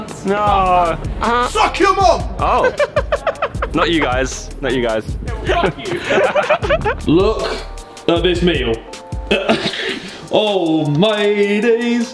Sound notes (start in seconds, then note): 2.4 laughing; 9.3 upbeat music